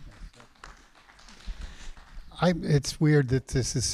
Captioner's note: applause